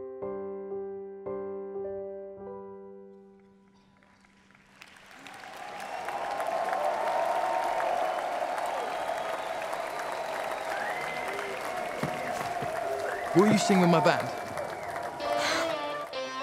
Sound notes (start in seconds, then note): 4.6 cheers and applause